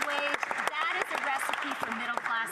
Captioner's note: some Applause